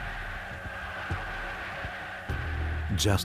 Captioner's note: crowd cheers jubilantly